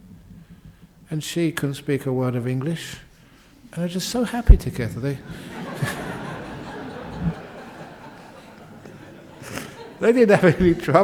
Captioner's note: laughter